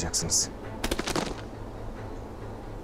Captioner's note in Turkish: Vurma sesi